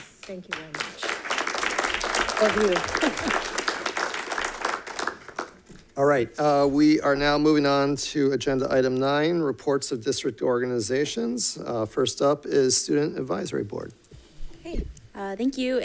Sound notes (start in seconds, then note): 0.0 all clapping